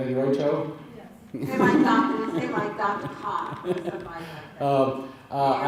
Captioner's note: laughter